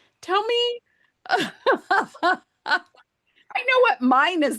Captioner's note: laughs